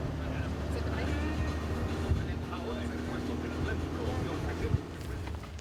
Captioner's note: speaking in foreign language